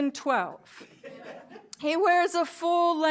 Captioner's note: laughter